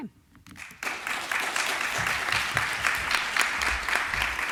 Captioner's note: applause